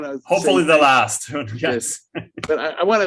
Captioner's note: chuckles